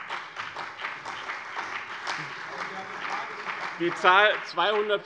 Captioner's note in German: Beifall bei dem BÜNDNIS 90/DIE GRÜNEN und der CDU